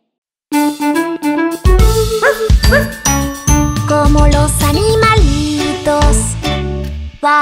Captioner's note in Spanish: Música alegre; Ladrido